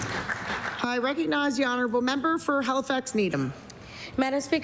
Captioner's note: applause